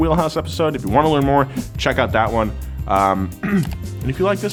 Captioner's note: clears throat